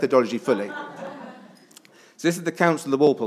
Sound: attendees laughs

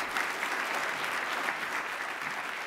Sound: applause

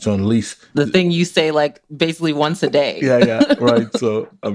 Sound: laughs

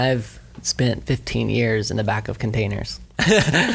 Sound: laughs

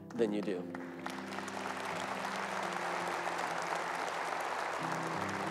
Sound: audience applauding

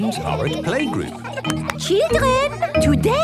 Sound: clapping

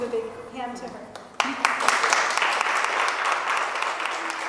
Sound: applause

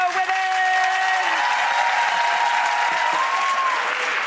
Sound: audience cheering

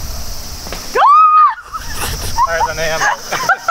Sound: screams

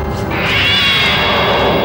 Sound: cat meows

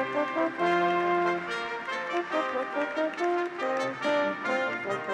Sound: audience applauds

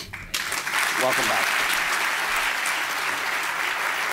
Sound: applause

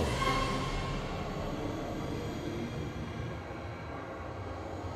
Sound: air whooshing

